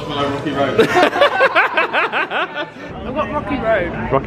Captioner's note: all laughing